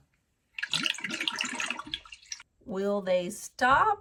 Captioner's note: water gurgles